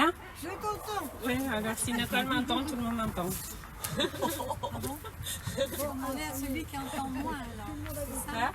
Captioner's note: laugh